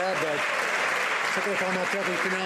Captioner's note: some Applause